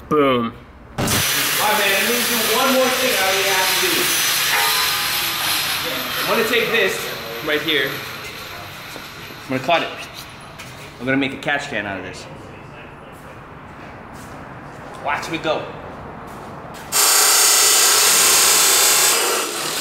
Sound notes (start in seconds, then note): 1.0 static